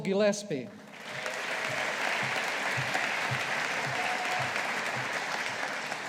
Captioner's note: audience applauding